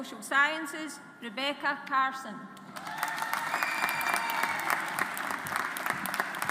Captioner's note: audience applauds